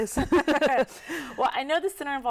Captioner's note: laugh together